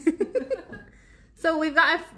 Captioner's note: laughs